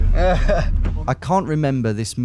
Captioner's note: laughs